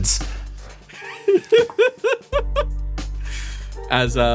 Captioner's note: giggle